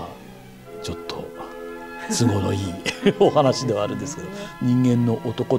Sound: laughs

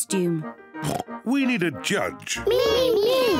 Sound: oinks; laughs

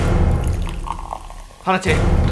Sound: soda pouring

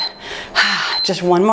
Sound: timer beeps

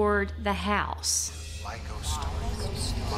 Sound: collective voices

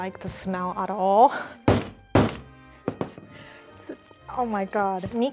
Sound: table thuds

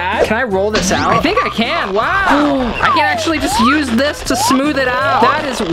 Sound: gasps

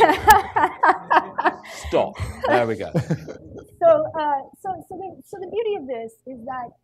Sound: laughter

